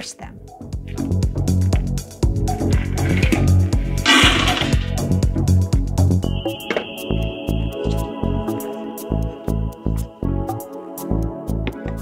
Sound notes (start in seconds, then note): 0.1 upbeat music; 3.1 berries clunking